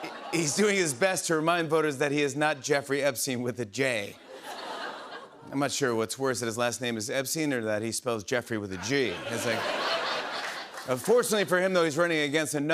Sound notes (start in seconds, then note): 8.8 laughter